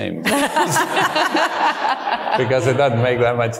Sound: audience laughing

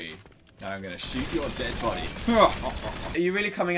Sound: laughs

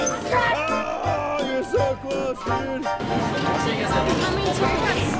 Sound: groans

